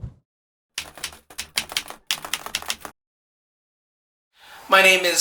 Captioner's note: keyboard keys clicking